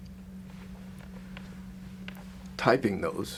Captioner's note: none